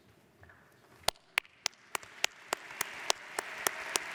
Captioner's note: audience applauds